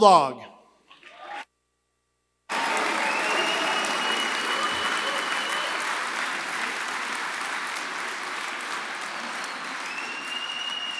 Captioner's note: applause